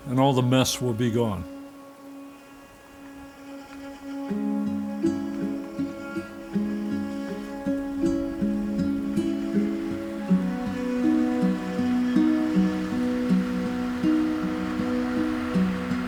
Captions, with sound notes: and all the mess will be gone. (serene music) (engine humming)